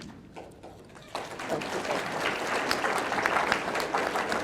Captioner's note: audience clapping